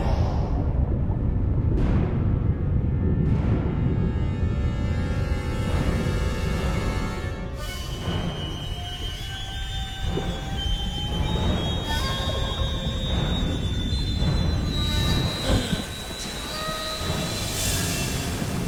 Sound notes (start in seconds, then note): 15.2 gasping